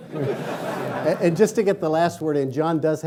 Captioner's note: laughing